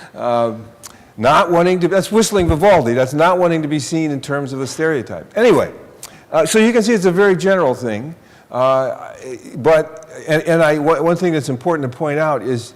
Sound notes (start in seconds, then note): none